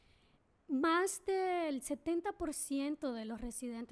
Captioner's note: speaking spanish